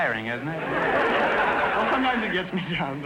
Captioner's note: audience laughter